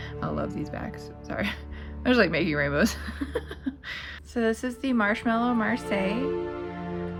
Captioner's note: laugh